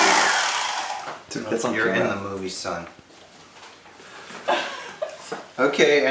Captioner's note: girl laughing